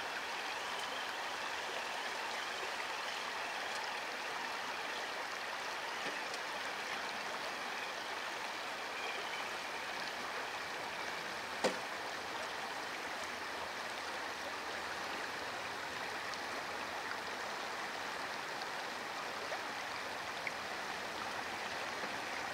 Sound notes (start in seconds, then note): 0.2 babbling brook and tires turning; 16.5 babbling brook